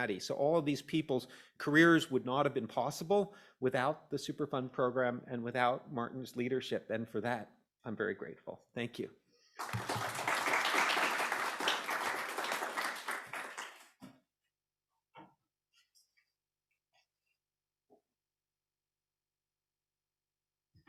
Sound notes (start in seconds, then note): 9.6 applause